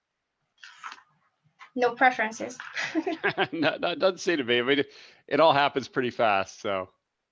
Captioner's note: laughs